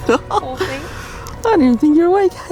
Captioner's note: laughing